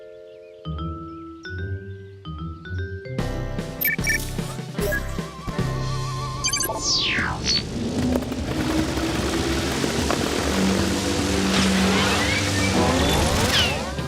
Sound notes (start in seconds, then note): 3.8 beeping; 6.7 whirring; 13.2 whizzing